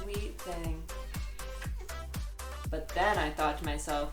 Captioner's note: cat meows